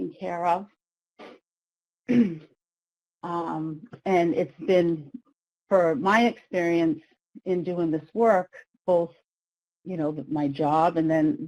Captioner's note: clears throat